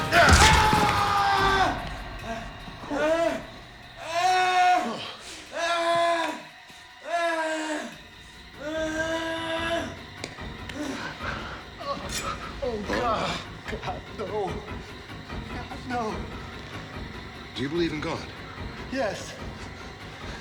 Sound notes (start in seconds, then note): 0.2 screams; 0.2 bone cracks; 2.3 whimpering